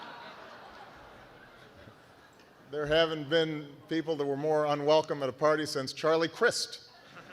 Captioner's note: laughter